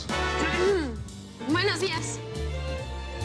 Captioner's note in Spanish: Carraspea